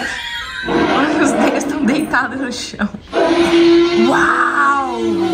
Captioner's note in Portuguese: risos; grunhidos continuam